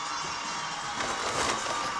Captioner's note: bags rustling